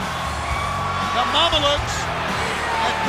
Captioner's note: crowd cheering